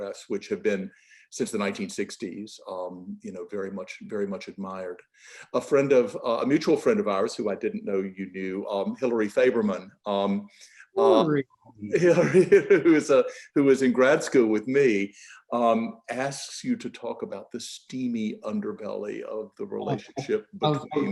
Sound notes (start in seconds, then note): 11.8 laughs